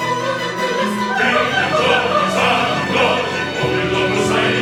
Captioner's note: laughing